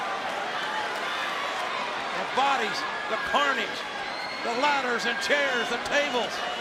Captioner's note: applause